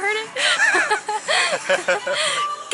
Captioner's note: laughter